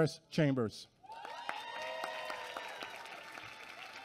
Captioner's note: applause